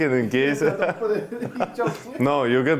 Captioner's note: group laughing